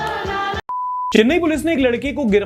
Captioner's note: beep